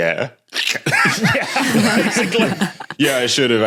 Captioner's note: group laughing